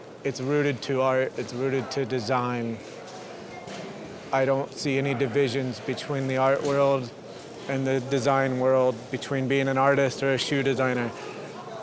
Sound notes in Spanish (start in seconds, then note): none